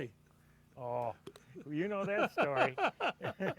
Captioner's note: laughter